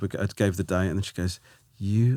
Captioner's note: none